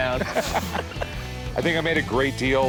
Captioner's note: all laugh